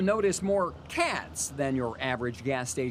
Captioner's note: sound of gas pump